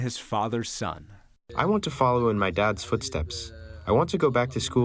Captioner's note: through translator